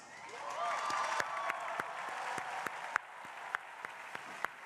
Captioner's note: crowd applauding